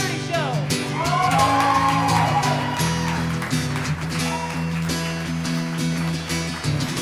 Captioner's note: guitar strumming; audience cheering